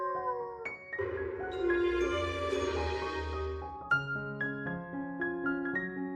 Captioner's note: wolf howls